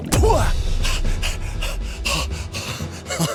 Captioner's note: panting